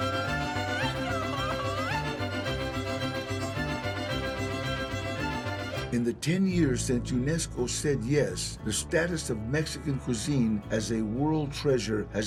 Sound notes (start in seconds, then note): 4.7 song ends; 5.9 in English